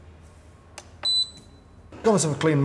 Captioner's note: kettle beeps